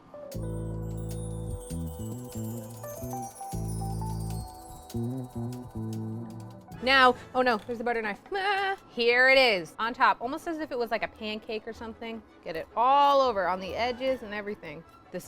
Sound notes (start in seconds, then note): 0.0 jazzy music; 8.3 vocalizes